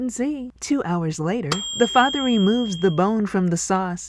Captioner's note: ding!